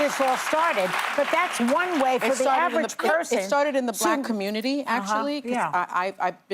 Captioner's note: applause